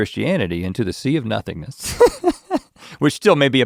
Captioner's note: chuckles